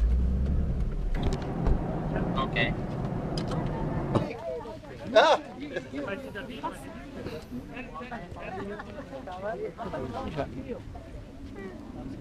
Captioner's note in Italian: Risate